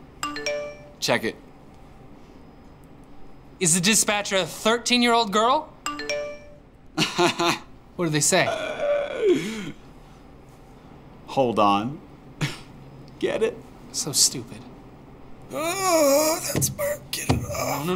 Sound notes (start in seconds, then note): 0.2 text alert; 5.8 text alert; 6.8 laughs; 8.6 wheezes; 15.5 groans